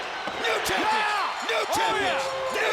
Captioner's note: bell rings